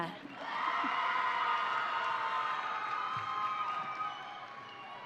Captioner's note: audience cheering